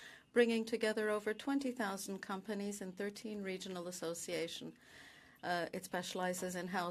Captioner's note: speaking French